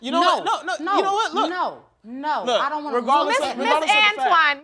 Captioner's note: both arguing